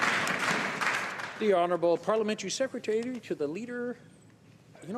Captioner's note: some Applause